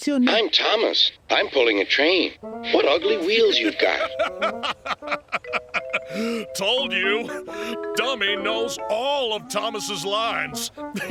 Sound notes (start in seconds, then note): 0.2 through a voice box; 3.2 fifteen chortles